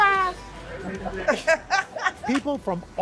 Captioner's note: laughter